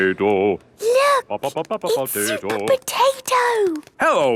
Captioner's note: hushed